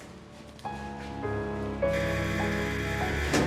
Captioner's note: door buzzes